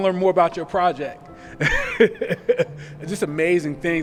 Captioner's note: laughs